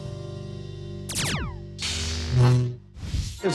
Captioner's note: lightsaber blasting, whirring